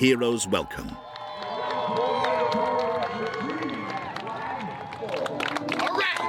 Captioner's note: audience cheering and applauding